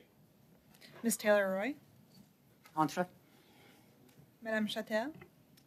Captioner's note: speaking French